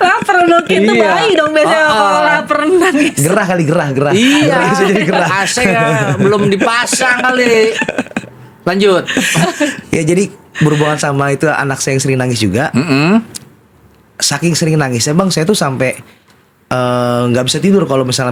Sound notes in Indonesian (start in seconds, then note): 4.1 tertawa